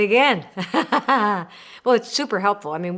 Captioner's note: laughing